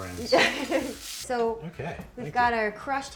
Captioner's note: laughs